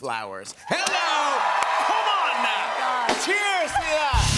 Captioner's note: cheers and applause